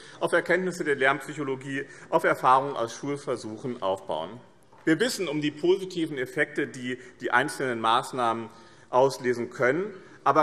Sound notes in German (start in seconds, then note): none